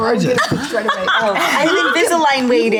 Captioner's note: group laughs